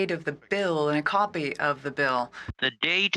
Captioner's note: speaking French